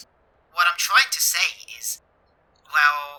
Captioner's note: Thomas radio voice